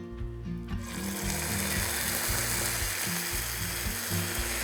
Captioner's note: pan sizzling